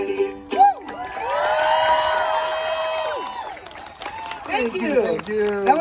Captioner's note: applause